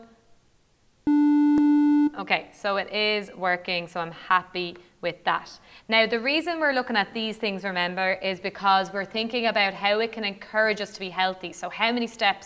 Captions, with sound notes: [TWO TONES SOUND] Okay, it is working so I am happy with that. Now the reason we're looking at these things remember is because we're thinking about how it can encourage us to be healthy, so how many steps could